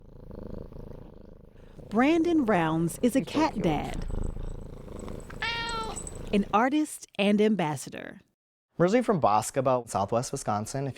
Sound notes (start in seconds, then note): 0.0 cat rumbles with full-body purr; 4.0 cat's purr buzzes loudly, Siamese cat meows